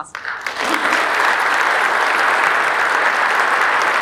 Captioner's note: audience applauding